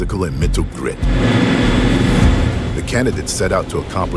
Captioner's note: motor rumbling